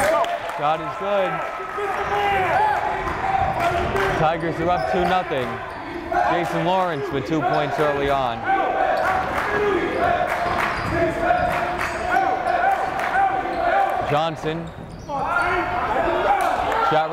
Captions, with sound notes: Shot is good. (yelling) Tigers are up two nothing. Jason Lawrence with two points early on. (yelling) Johnson.